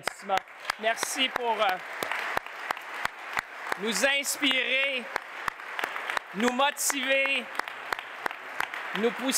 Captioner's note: applause